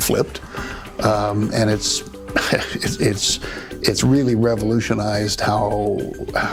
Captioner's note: laughs